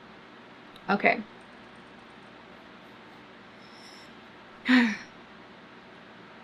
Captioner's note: exhales loudly